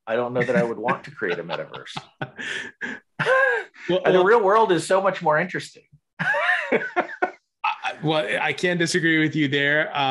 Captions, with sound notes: I don't know that I would want to create a metaverse. (both laugh) And the real world - Well-- - is so much more interesting. (laughs) - Well I can't disagree with you there,